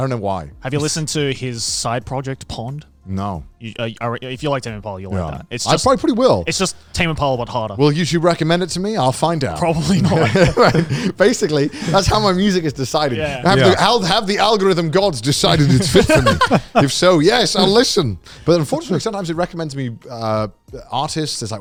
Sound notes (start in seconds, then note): 15.3 men laughing